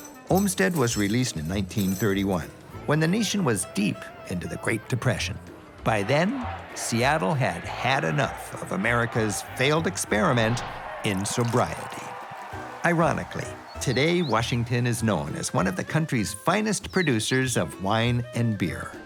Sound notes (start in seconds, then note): 0.0 chains clanging; 11.4 distant cheering